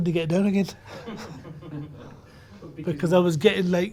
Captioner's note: laughs